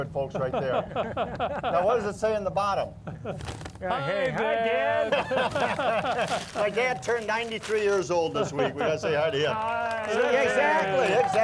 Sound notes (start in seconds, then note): 4.9 laughing